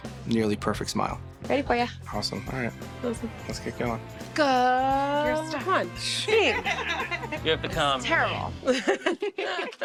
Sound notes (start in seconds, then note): 6.3 laughter